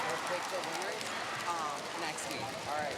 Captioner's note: chatter